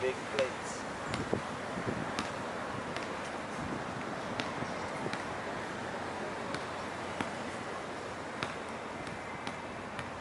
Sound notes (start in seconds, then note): 1.2 leaves rustling; 2.0 basket ball tapping; 2.6 traffic humming